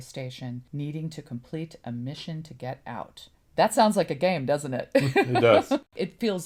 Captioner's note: laughs